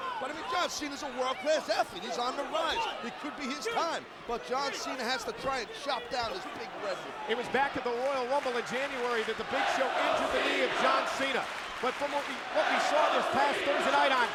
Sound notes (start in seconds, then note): 10.1 crowd clapping